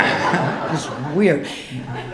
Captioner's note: audience laughing